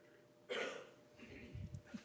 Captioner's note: cough